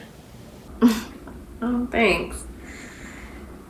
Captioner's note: giggles